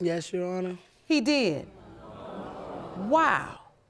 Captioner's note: audience gasps